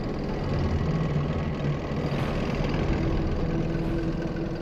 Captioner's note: engine revving